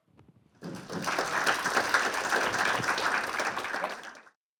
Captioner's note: all clapping